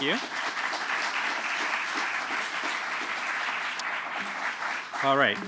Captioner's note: applause